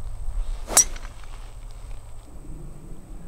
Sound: clink

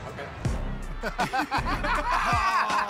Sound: laughter

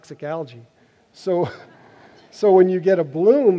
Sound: laughter

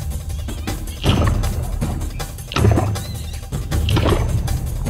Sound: water splashing

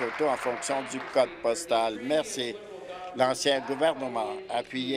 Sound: applause

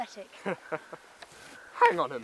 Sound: laughs

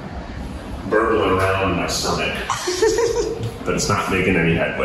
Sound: giggles

